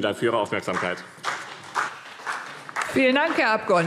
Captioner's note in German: Beifall BÜNDNIS 90/DIE GRÜNEN und CDU